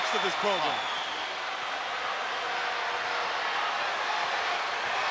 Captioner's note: crowd yelling